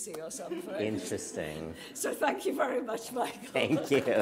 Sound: laughter

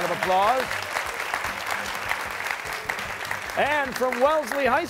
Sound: applause

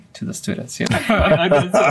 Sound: laughing

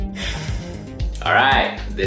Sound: sighs

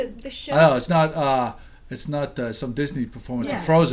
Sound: voiceover

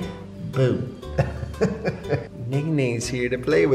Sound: laughing

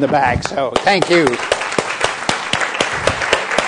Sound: applause

